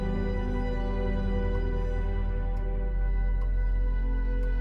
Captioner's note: clock ticking